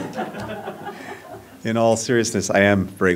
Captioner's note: laughter